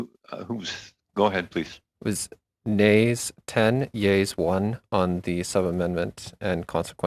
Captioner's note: speaking French